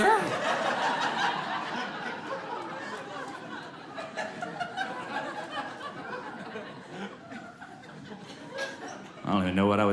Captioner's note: audience laughing